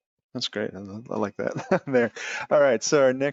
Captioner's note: laughing